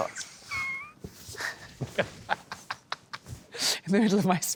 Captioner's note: laughter